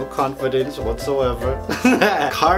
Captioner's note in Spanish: Risas